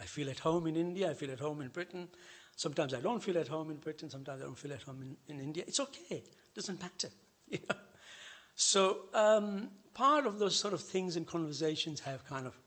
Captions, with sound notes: I feel at home in India, I feel at home in Britain. Sometimes I don't feel at home in Britain, sometimes I don't feel at home in India. It's okay. It doesn't matter. [chuckles] Part of those things in conversations have